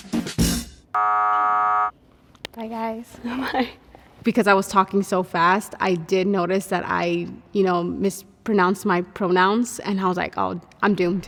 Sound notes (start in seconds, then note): 0.9 buzzer sound